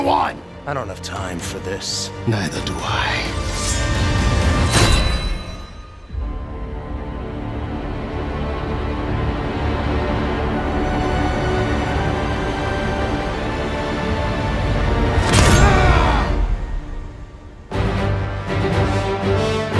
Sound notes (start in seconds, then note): 14.8 grunts